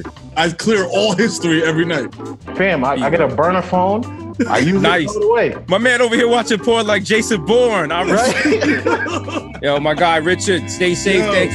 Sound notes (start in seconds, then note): 7.9 laughs